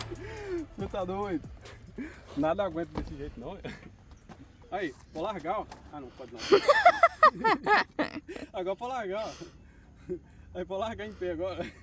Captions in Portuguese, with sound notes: Você tá doido. Nada aguenta desse jeito não. Aí pode largar, ó. Ah, não pode não. [risadas] Agora pode largar, ó. Aí, pra largar em pé. Agora